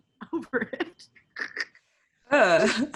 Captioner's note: laughs